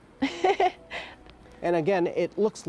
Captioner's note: laughs